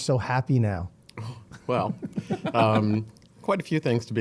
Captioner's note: laughing